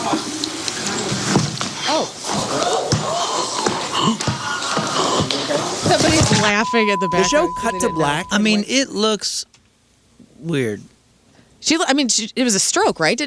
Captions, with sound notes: Oh. (gasping) Somebody's laughing at the back. The show cut to black. I mean, it looks weird. She looked, I mean, it was a stroke, right?